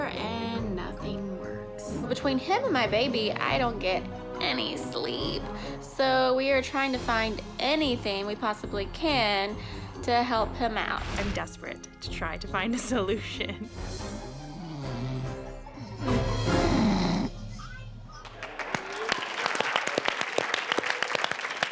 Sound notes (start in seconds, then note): 13.9 snoring; 18.1 audience applauds